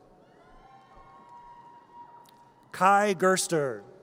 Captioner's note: audience cheers